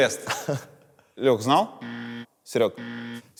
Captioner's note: buzzer sound